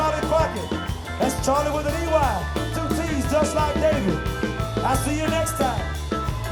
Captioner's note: murmurs; upbeat music